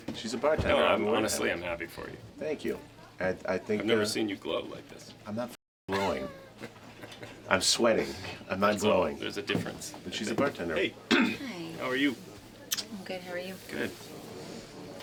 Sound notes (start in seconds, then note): 5.9 chuckles; 11.1 clears throat